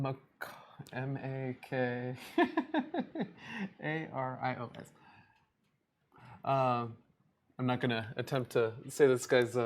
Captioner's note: laughs